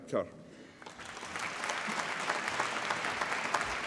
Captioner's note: applause